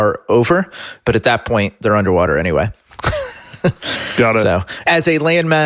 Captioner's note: laughs